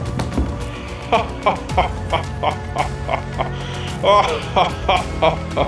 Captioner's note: laughing